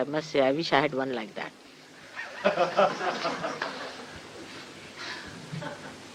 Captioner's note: laughter